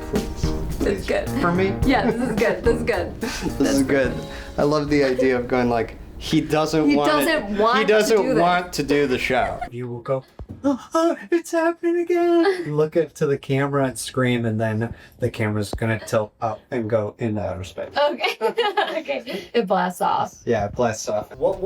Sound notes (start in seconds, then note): 10.6 whimpers; 18.1 laughs